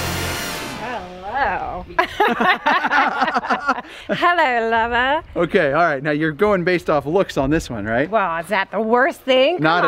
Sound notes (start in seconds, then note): 1.8 laughing